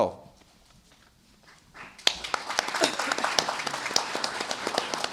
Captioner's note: applause